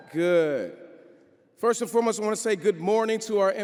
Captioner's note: crowd cheering